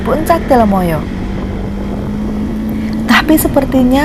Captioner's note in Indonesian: suara mesin motor